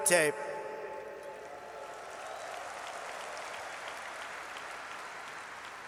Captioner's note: applause